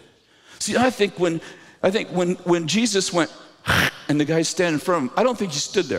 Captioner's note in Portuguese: cuspir